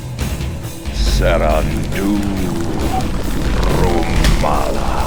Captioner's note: speaking foreign language